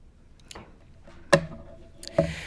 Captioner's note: none